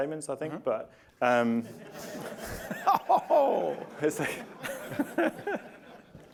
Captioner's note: laughter